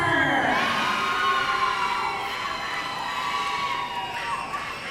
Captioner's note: audience cheering